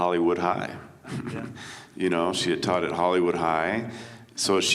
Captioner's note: chuckles